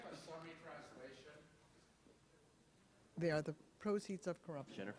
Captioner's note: audience member speaking off-mic